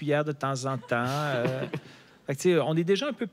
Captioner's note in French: rires